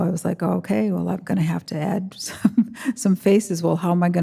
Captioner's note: chuckles